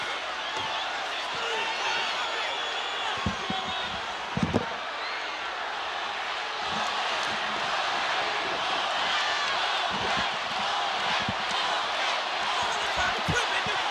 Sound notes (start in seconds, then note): 3.1 headsets clattering